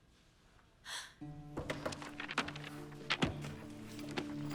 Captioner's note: gasps